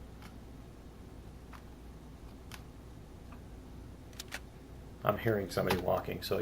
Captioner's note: weapon click; footsteps